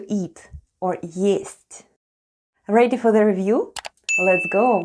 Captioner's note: click and ding sound